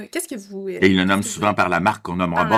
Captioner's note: laughs